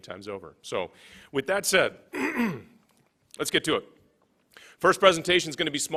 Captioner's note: clears throat